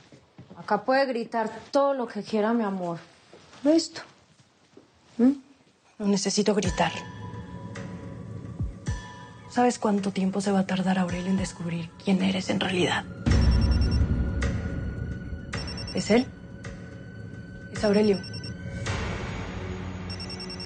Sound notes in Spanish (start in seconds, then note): 13.2 Suena un celular; 20.1 Suena un celular